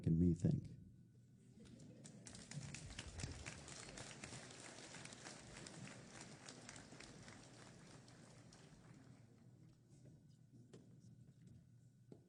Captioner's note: applause